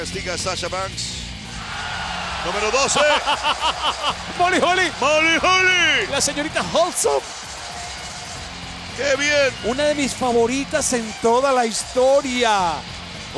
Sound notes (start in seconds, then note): 2.8 laugh